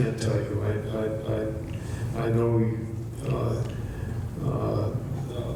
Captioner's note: stammers